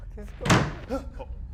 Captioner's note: violent thud